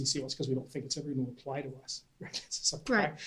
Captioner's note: laughs